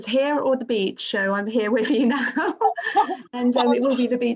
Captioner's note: laughs